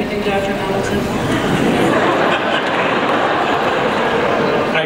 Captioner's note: audience laughs